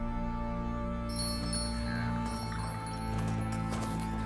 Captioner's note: bell jangling